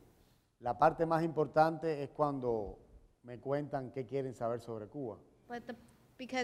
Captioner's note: speaking in Spanish